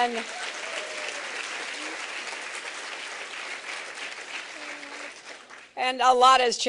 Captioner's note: laughter and applause